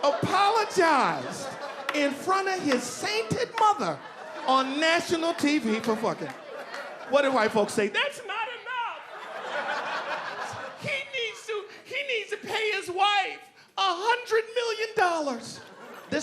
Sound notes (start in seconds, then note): 9.8 audience laughing